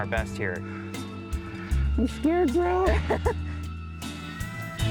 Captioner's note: laughter